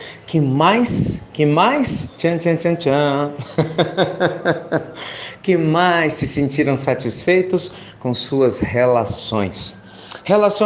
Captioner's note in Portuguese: risos